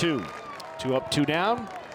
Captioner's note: fans cheer